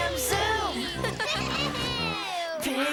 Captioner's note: all laughing